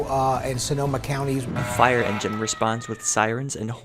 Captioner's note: A fire engine horn and sirens